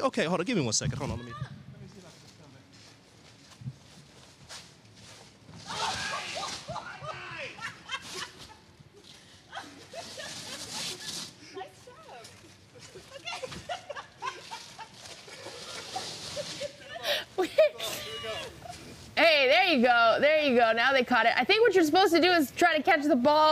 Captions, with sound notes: THERE'S DIFFERENT PLACES YOU CAN CATCH A BALL. MEKIALAYA, WOULD YOU MIND IF I JOIN YOU? WOULD THAT BE OKAY? HOLD ON. GIVE ME ONE SECOND. HOLD ON. >> [ LAUGHING ]